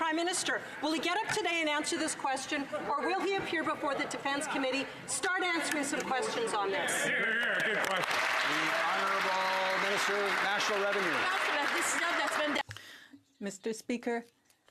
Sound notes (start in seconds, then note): 11.4 some Applause